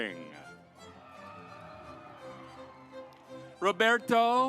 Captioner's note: audience applauds